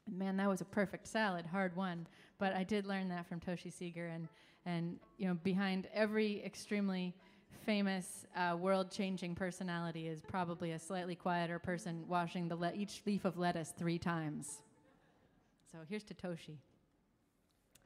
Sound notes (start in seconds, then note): none